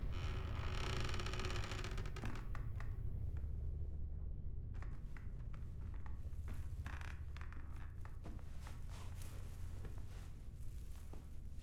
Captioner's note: door creaks